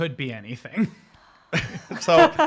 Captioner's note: laughter